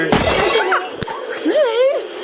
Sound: glass breaking; screams quietly

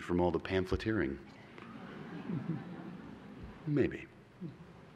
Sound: laughter

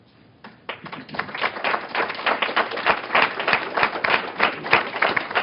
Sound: applause

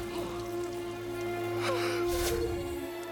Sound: gasps

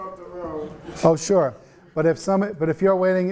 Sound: students laughing

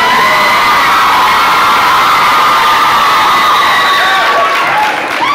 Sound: loud cheers

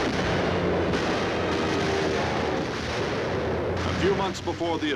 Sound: explosions booming; engines roaring

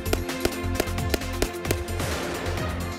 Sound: firing gunshots; explosion

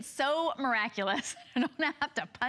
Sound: laughter

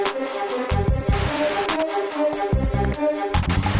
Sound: crackles

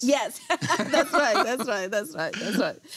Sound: laughing

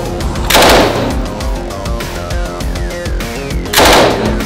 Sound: gun firing

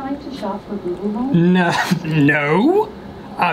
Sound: chuckles

